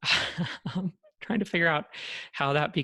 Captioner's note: chuckles